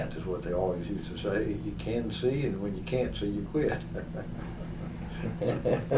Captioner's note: laughter